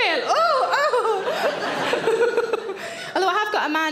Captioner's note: laughs